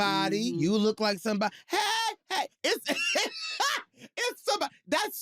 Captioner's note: laughs